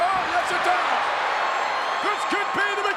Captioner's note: crowd cheering